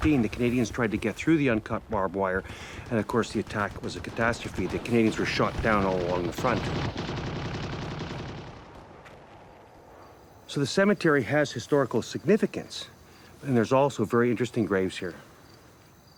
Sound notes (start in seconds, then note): 7.1 machine guns firing